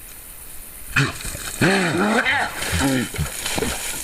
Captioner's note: bears grunt